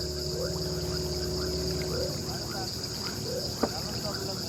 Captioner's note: frogs croaking